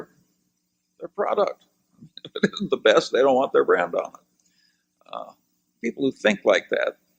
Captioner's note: laughs